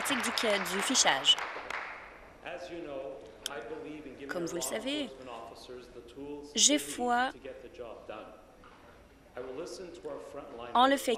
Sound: applause

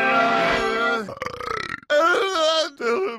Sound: burp

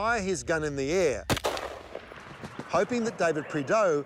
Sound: gun shot fires

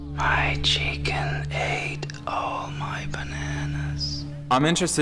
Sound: guy whispering

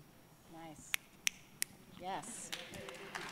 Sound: snapping; applause

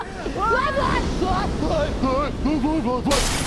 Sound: yelling laughter; crashing

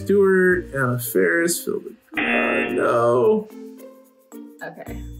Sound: buzzer rings

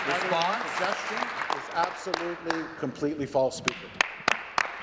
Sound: applause

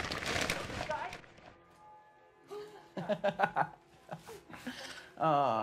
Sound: TV playing

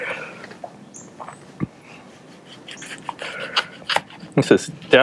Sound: cutting pepper

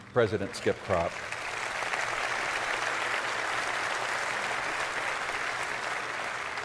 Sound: applause

